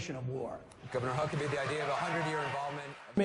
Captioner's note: applause